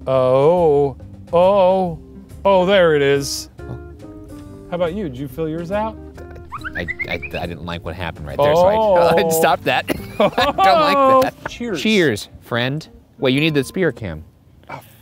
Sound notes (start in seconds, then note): 9.8 laughs